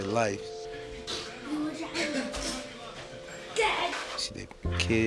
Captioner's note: child chattering playfully and indistinctly